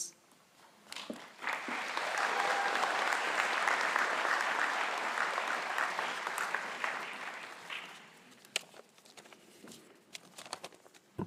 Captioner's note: applause